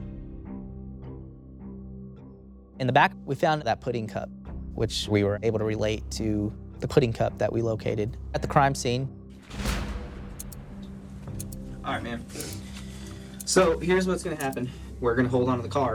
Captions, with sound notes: (tense music) In the back, we found that pudding cup, which we were able to relate to the pudding cup that we located at the crime scene. (clock ticking)